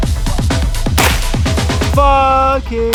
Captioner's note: gun firing